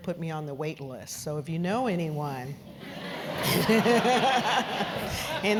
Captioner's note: laugh; laughs